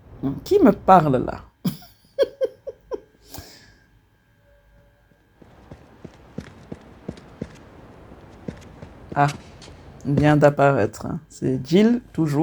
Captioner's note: laughs